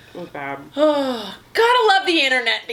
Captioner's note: sighs